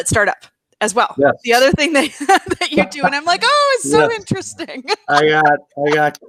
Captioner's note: laughs